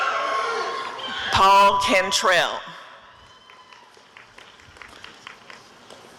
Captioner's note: applause and cheering